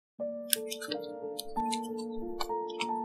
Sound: cooking

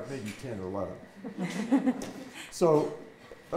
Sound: audience laughing

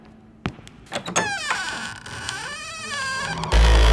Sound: footsteps thumping; door creaking; discordant music

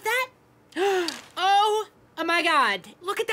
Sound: gasping

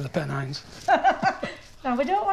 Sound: laughing

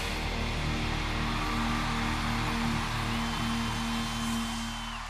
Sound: audience cheering

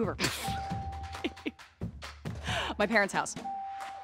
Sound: Katie laughing

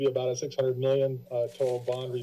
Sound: papers flipping

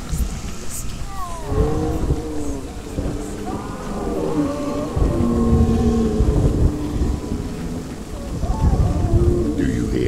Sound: moaning, wailing continue

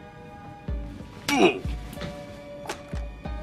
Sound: minecraft oof sound

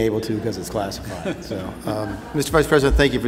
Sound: laughter

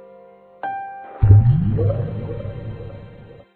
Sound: sinking in water

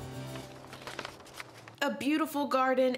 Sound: papers rustling

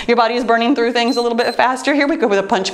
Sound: timer beeps

